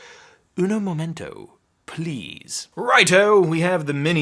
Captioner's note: speaking in Spanish